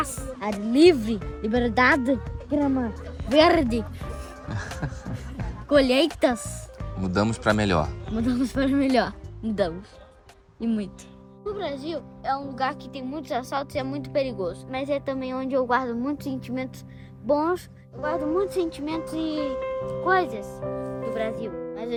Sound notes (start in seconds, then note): 4.1 laughter